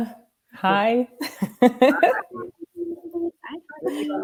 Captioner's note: laughter